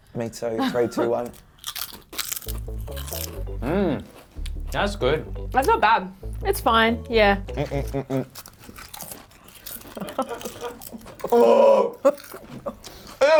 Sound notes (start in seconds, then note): 1.6 chomping loudly; 7.4 chomping loudly; 10.0 laughing